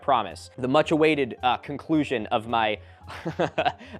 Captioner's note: chuckles